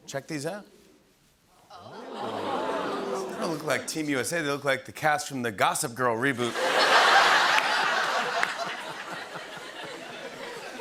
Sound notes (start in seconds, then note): 1.7 audience "Oohs"; 6.4 laughter